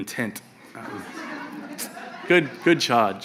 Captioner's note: audience laughs